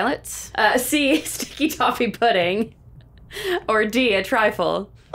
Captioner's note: chuckles